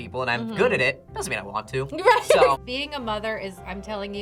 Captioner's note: laughs